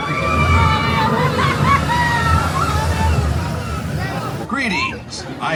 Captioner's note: guests screaming joyfully; coaster whooshing; buzz